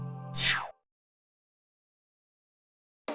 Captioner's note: silence